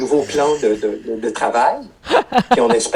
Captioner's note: laughter